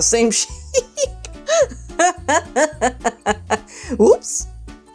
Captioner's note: laughs